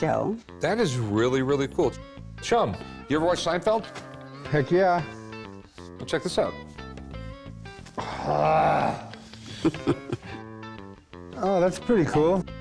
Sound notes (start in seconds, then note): 9.0 chuckles